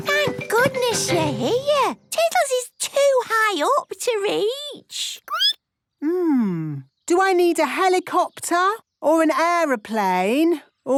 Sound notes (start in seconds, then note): 4.7 squeaking